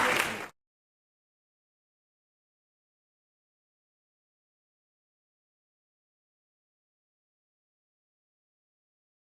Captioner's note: no sound